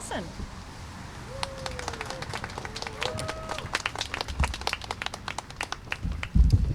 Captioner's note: applause